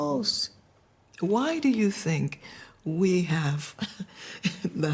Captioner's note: chuckling